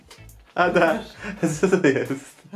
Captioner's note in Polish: śmiech